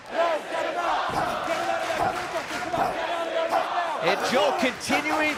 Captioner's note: crowd cheering; crowd chatter